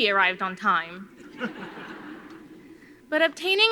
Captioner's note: audience laughing